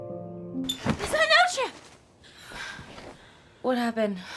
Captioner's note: woman shouts